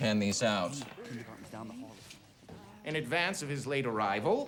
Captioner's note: students murmuring faintly